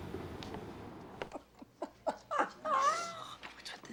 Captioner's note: claire laughs